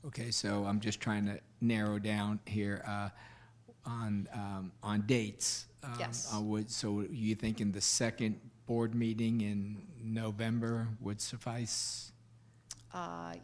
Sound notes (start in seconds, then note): none